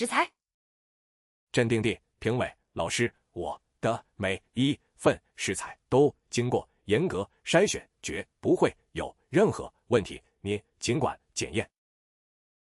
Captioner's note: calmly